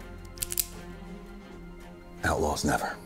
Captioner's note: pistol cocks